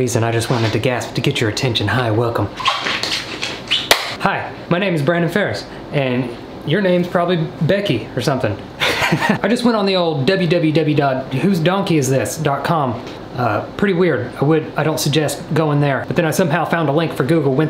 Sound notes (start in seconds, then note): 2.5 shoes squeaking; 3.8 loud clap; 8.8 man laughing